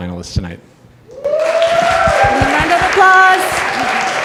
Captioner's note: audience applause